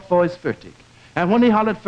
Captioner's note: speaks german